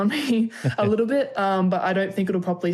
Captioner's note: laughter